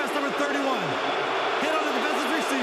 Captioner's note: booing